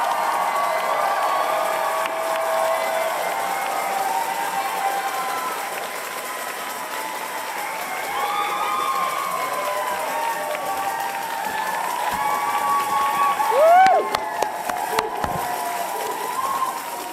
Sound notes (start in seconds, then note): 6.0 cheers and applause